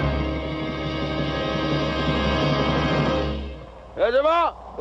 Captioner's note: shouting in Arabic